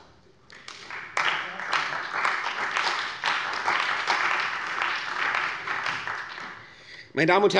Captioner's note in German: Beifall bei der CDU und dem BÜNDNIS 90/DIE GRÜNEN